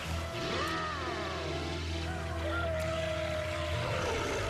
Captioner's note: snarls